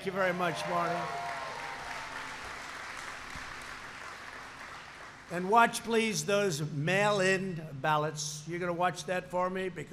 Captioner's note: applause